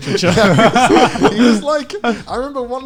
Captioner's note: laughing